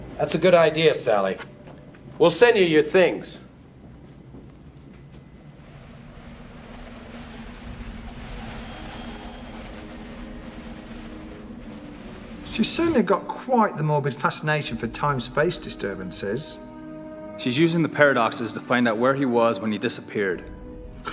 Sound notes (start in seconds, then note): 6.9 wind rushes